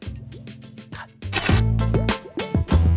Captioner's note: TV Static SFX